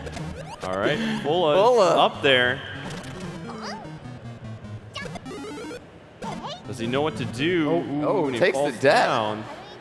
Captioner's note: laughter